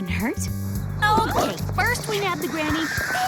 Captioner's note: squeals